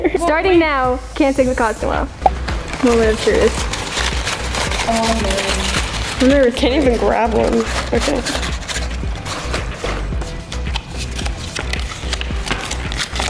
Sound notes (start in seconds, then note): 3.8 papers rustling; 8.9 paper crinkling